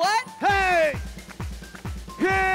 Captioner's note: Clap~!